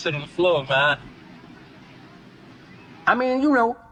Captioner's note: neighborhood noise